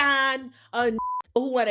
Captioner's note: beep